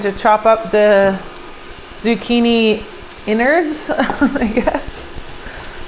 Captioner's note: laughs